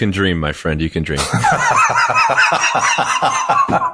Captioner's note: laughing